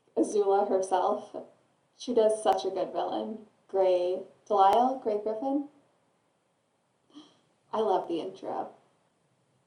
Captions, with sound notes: Azula herself. She does such a good villain -- Gray ... Deslisle? Gray Griffin? [gasp] I love the intro!